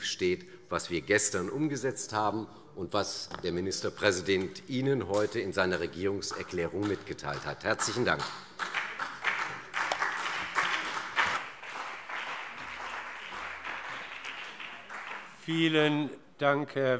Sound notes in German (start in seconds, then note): 7.6 Vereinzelter Beifall CDU und BÜNDNIS 90/DIE GRÜNEN